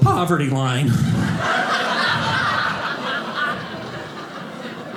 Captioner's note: audience laughing